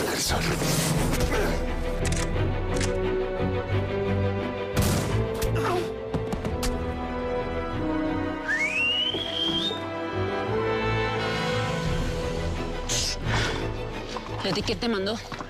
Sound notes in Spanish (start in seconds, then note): 4.7 Disparo; 5.5 Quejido; 8.3 Silbido